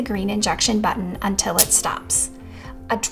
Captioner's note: pen clicking